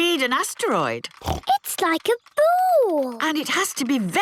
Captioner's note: snorts